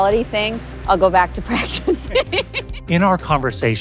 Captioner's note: laughs